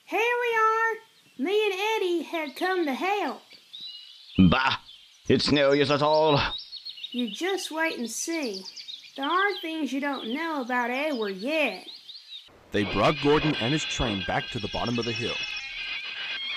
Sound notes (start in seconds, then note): 4.4 grumbling